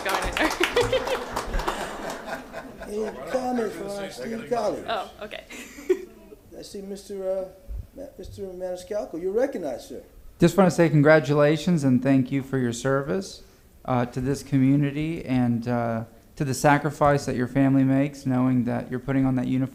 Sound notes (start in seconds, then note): 3.1 applause